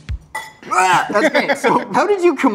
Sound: gags; laughs

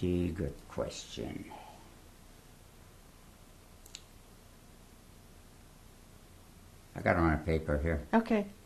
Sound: pauses for 6 seconds

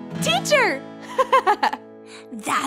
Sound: laughing

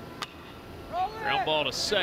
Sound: ball hitting bat

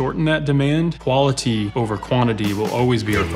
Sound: attendees cheering; upbeat country music

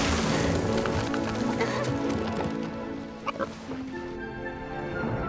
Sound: pig spits, oinks; giggles

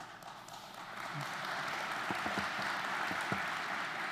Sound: audience applauding

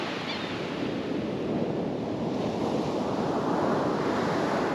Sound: gull call

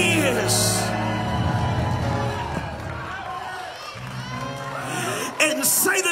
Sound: piano playing; audience cheers

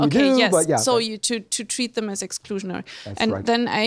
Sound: voiceover

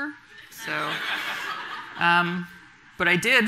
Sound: audience laughing

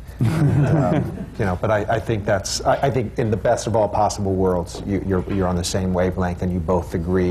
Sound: laughter

